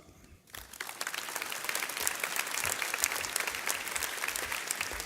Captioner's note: audience clapping